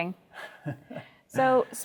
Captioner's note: laughs